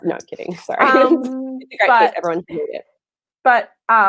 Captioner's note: murmurs